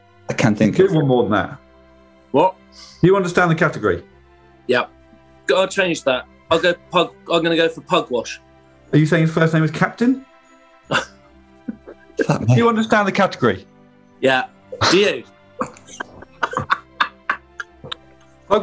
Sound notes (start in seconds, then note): 11.6 giggling; 15.6 laughing